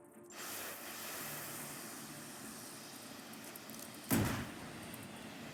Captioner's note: rockets fizzling